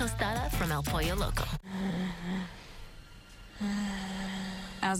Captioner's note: wheezing